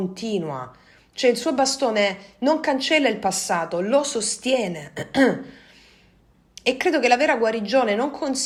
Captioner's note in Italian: schiarire la voce